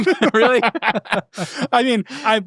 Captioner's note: hosts laughing